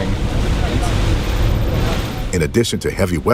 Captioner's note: motor whirring